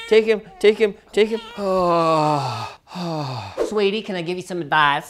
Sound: sighs

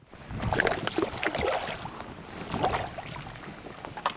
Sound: fish splashing

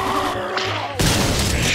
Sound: groaning

